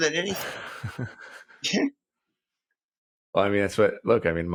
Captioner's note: both chuckling